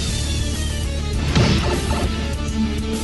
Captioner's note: SMB Sound Effect